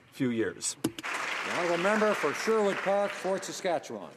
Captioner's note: speaking French